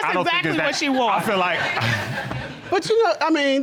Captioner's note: laughs